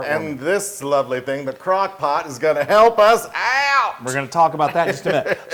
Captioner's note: laugh